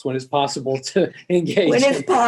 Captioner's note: laughter